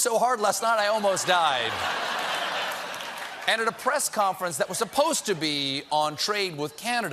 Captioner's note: laughter